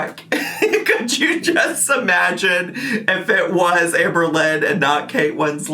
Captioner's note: laughs